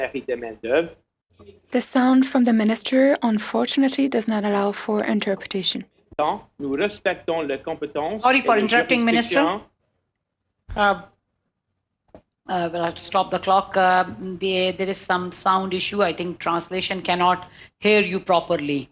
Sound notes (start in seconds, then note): 6.1 speaking in French